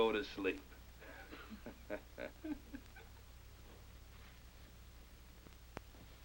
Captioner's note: Redfield and Jumper chuckle